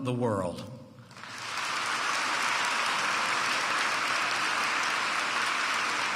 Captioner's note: applause